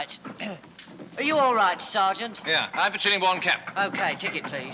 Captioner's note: clears Throat